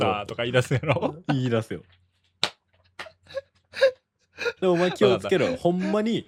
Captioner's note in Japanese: 笑い